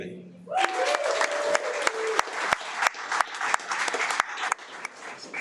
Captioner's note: audience applauding